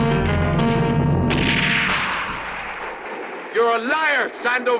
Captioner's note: gun roars